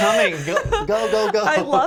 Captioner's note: laughs